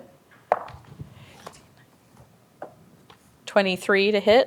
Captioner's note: dice rolling; counting quietly